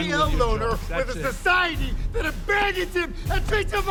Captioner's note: yelling